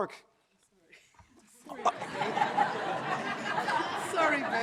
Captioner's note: audience laughs